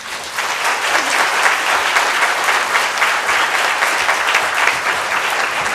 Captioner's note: applause